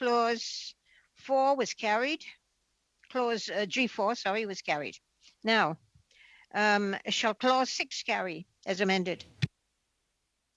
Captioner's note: speaking French